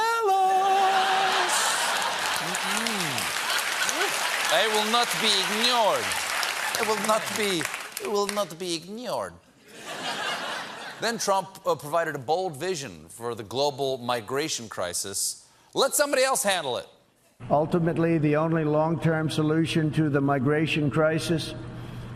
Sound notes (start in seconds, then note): 1.0 applause; 9.6 laughter